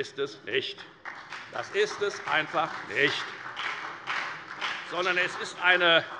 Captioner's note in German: Beifall bei der FDP und bei Abgeordneten der SPD